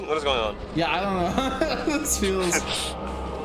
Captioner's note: laughs